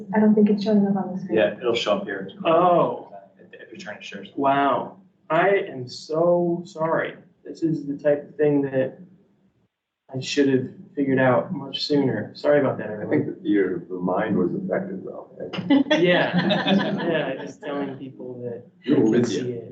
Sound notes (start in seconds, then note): 2.8 speaks softly; 16.0 all laugh